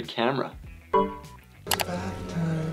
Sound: word dings

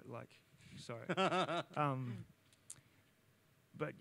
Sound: laughs

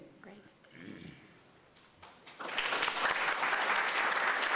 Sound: applause

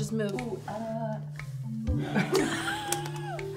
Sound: laughing

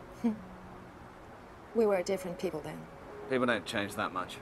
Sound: chuckling

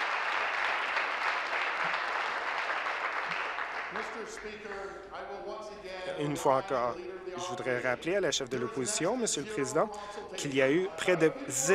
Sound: applause

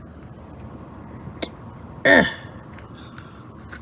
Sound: Caprice grunting

